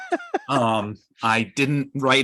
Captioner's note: laughing